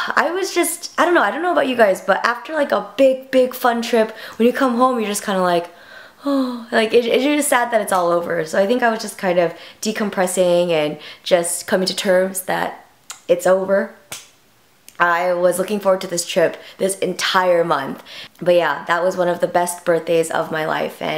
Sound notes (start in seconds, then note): 5.8 sighs